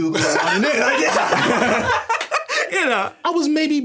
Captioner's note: everyone laughing